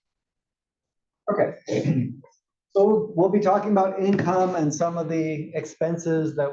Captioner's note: cough